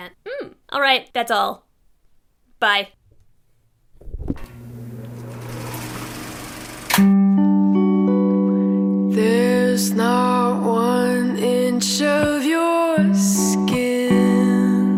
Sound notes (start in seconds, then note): 5.1 film reel spins; 7.0 mellow music